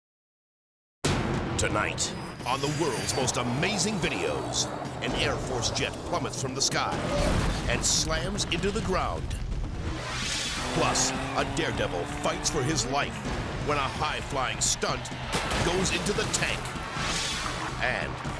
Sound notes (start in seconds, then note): 1.1 explosive bang; 6.9 jet exploding; 9.7 edgy dramatic music; 15.2 water splashing; 16.9 edgy dramatic music